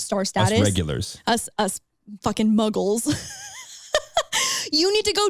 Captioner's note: laughs